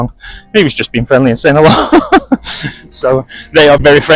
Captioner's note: laughter